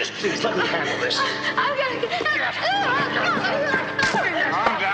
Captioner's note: whimpering